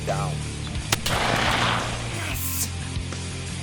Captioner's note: gunshot firing; rock music continues